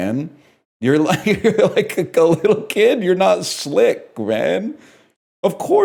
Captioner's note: laughing